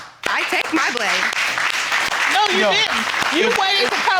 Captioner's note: audience applauding